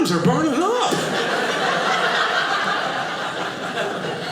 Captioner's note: audience laughing